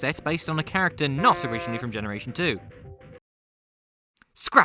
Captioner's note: honk!; silence